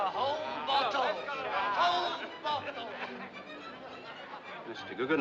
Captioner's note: Risos